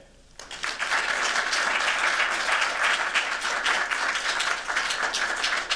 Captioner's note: applause